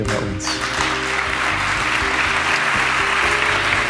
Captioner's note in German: Applaus